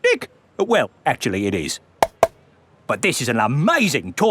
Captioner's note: taps